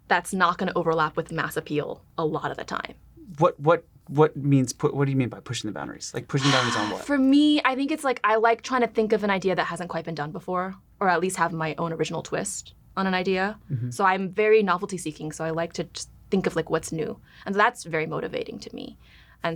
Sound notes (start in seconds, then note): 6.3 sighs